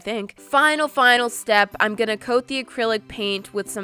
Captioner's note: none